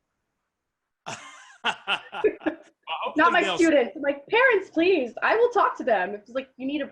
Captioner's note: giggles